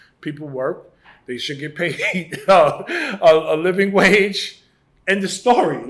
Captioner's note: laughs